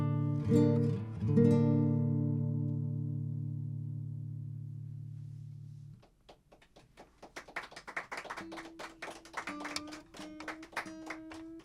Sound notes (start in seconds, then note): 6.0 applause